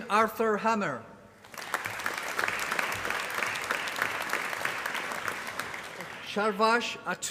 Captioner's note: applause